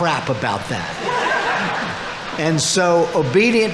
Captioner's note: audience laughing